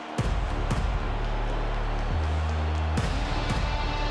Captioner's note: dramatic music; crowd cheering